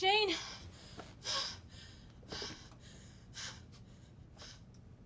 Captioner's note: pants